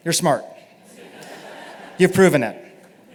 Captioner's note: laughter